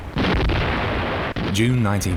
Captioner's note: cannon blasting